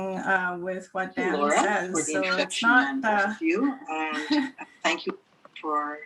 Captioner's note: chuckles